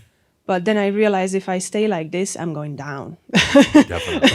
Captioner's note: she chuckles